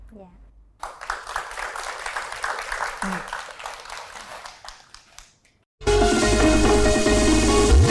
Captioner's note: applause